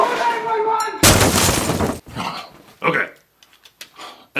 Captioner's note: sounds of stuff breaking and general carnage